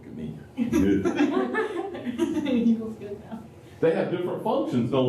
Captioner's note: laughter